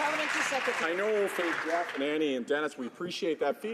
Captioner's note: some Applause